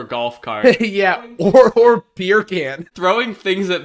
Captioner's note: laughing